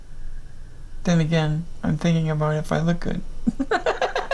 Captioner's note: laughter